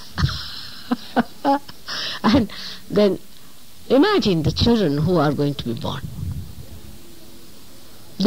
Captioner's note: laughing